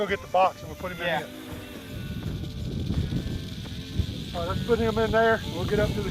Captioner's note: snake rattling